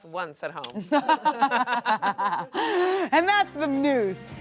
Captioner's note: everyone laughs